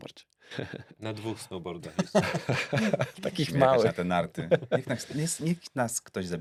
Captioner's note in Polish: śmiech